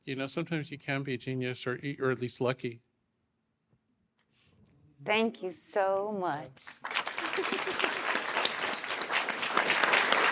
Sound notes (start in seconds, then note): 6.6 applause